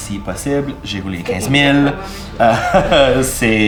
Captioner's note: he laughs